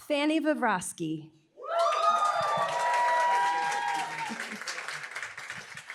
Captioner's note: applause, cheering